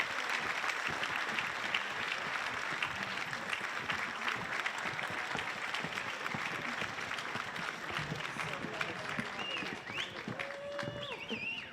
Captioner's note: applause